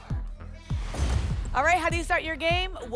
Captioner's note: whoosh; thump